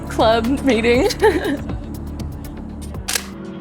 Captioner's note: laughs; shutter clicks